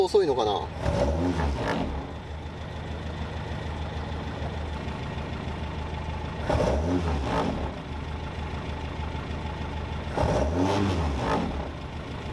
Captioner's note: engine whirring